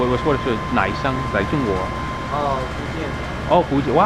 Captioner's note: mandarin